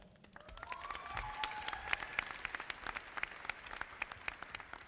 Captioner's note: audience applauding